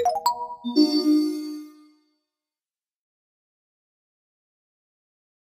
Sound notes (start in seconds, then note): 0.0 melodic beeps; 0.0 twinkling chimes